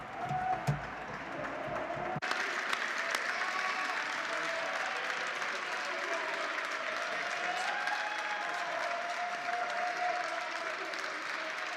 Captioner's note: applause